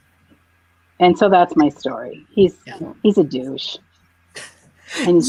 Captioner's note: laughs